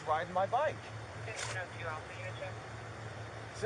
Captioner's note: radio chatter